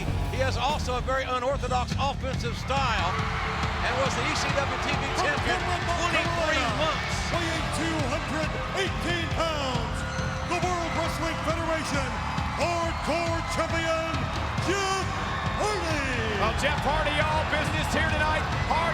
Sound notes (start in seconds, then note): 2.9 groovy rock music; 4.8 crowd cheering